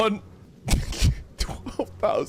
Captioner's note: chuckles